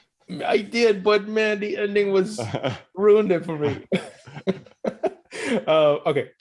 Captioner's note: laughs